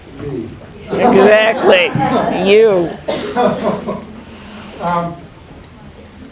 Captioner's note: all laughing